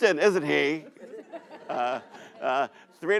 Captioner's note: audience laughs